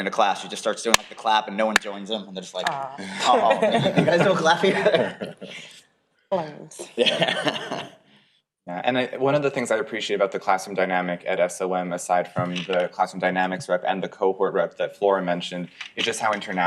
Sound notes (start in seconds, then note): 6.6 people laughing; 9.4 laughs